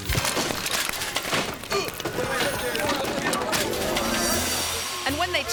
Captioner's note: bike thuds; person grunts